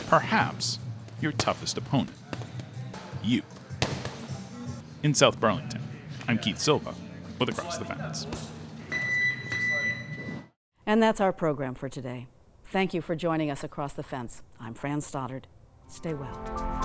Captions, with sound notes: perhaps, your toughest opponent, you. (gloves smacking) In South Burlington, I'm Keith Silva, with "Across the Fence." (timer beeping) - And that's our program for today. Thank you for joining us "Across the Fence." I'm Fran Stoddard. Stay well.